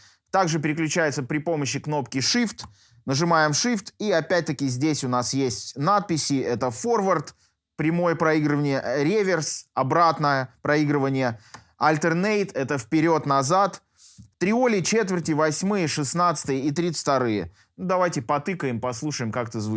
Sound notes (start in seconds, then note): 8.7 reverse playback